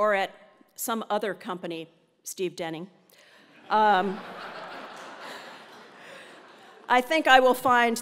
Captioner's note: laugh